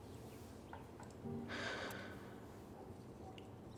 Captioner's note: Christopher sighs